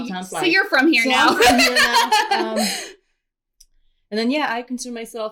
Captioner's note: laughter